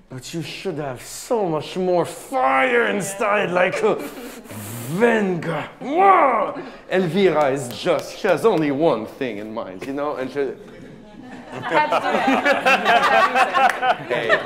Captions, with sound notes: but you should have so much more fire inside, like. (speaking in a foreign language) Elvira, she has only one thing in mind, you know? - I had to do it. (laughing)